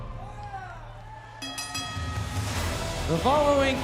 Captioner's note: bell ringing